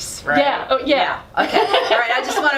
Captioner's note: laughing